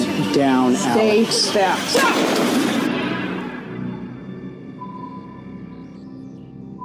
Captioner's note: gunshot bangs; ominous music